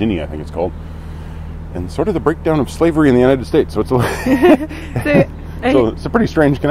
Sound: laughing

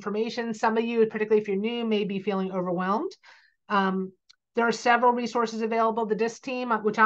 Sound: click

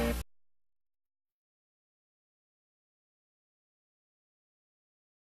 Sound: silence

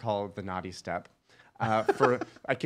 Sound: laughing

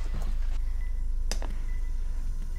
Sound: beeping continues

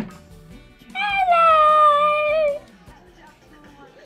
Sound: elf talking

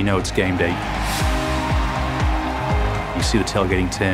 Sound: crowd cheering

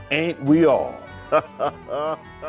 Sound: laughs

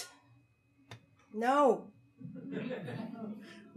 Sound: audience laughing

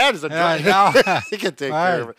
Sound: laughing

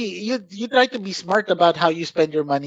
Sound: laughs

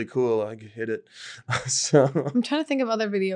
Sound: laughs

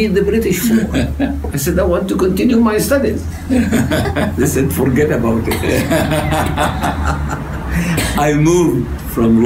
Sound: laughter

